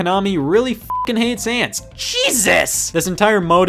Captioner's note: beep